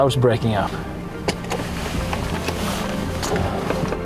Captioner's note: rain